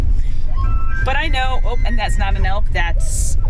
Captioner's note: phone chimes